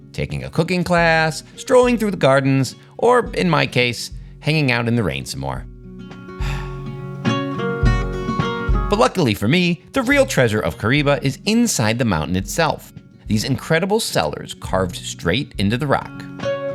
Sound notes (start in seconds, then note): 6.4 sighing; 6.7 bright orchestral music